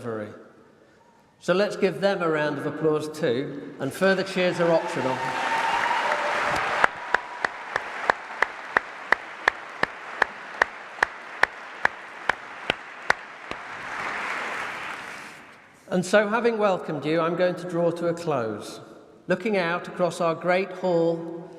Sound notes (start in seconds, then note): 10.5 applause